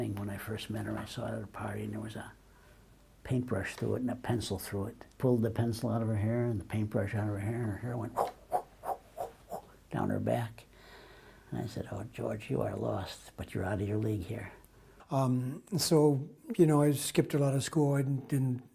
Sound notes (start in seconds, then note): 10.8 exhales repeatedly